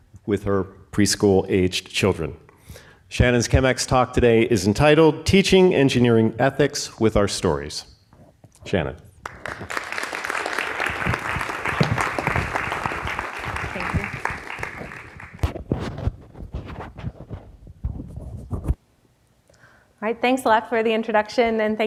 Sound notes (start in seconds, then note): 9.2 audience applauds